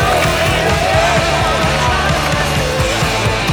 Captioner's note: cheering